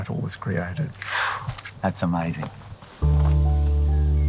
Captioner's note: exhales